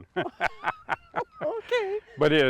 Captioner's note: laugh